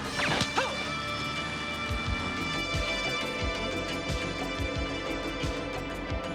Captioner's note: gun firing; man groaning